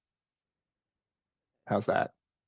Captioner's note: speaking French